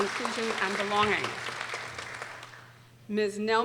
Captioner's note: people applauding